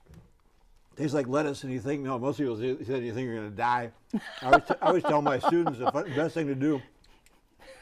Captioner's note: laughing